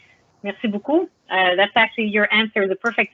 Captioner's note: speaks in foreign language